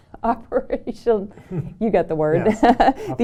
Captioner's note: laughter